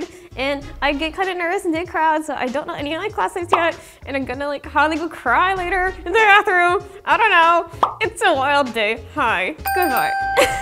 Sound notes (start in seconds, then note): 3.5 pop sound; 7.8 bubble pops; 9.6 bell dings